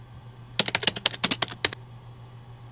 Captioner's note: keyboard clacking